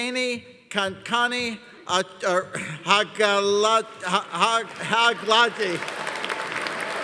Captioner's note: audience applauding